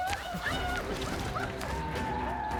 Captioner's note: war cries